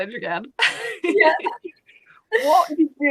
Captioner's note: laughing